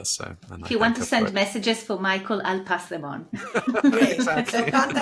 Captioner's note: laughs